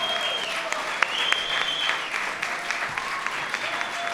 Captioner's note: applause